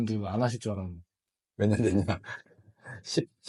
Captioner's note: laughs